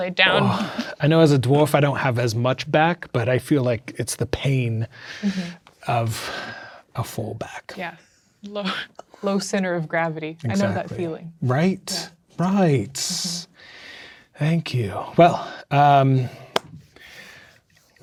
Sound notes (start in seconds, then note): 8.5 laughs; 16.5 claps hands